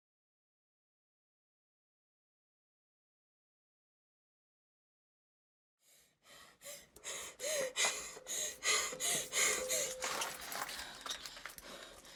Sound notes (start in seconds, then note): 6.3 rapid gasps